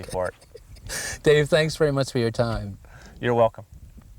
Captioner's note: chuckles